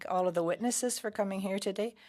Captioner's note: speaking French